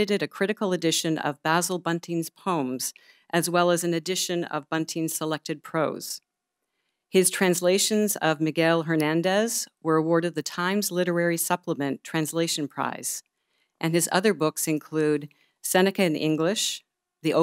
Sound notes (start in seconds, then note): none